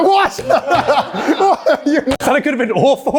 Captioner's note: laugh